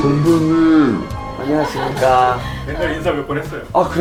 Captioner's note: politely